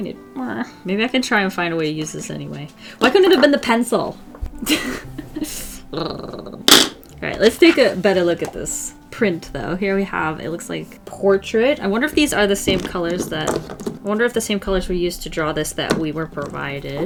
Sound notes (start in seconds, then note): 4.6 laughs then growls; 6.6 smack